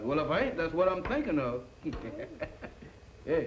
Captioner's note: chuckles